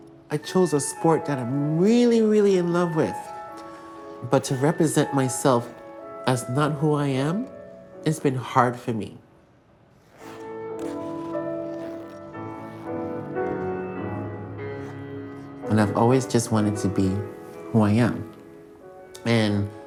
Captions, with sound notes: I chose a sport that I'm really, really in love with, but to represent myself as not who I am, it's been hard for me. [enchanting music] [skates scraping ice] And I've always just wanted to be who I am.